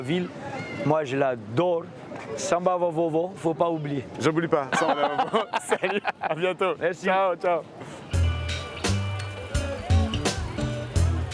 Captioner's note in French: rires